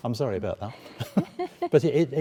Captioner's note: laughing